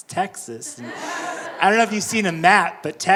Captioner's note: audience laughing